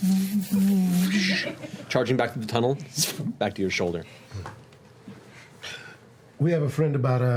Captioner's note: hovering hum